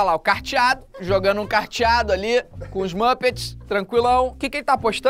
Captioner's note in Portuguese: risadas